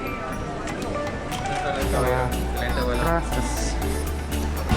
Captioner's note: speaking Spanish